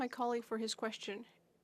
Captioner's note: speaking FRENCH